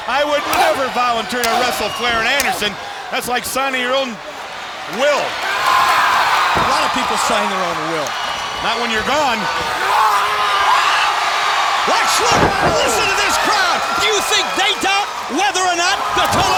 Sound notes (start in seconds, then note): 10.2 shouting